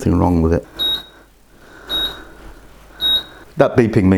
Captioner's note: beep beep beep